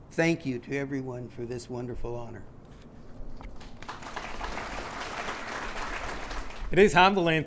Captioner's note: clapping